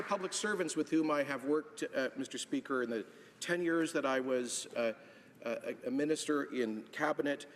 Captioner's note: applause